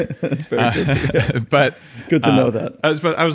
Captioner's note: laughing